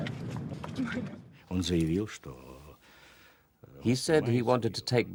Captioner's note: speaking Russian